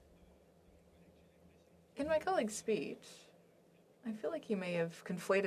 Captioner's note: speaking FRENCH